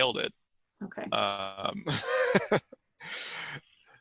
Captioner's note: laughs